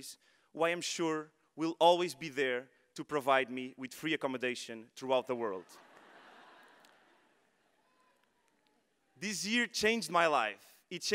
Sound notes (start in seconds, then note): 5.6 audience laughing